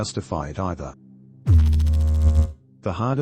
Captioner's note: electrical noise